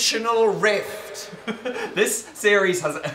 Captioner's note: echoing; Phil laughs